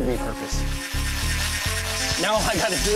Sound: whirring

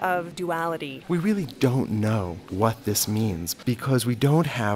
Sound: voiceover

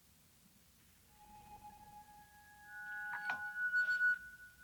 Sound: chiming

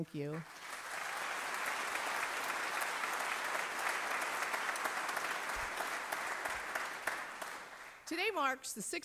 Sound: applause

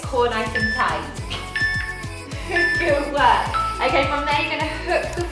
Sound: timer beeping

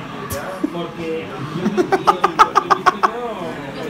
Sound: laughs

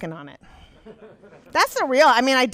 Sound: audience laughs

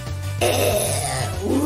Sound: growl

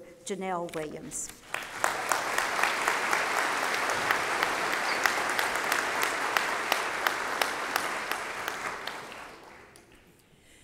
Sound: applause

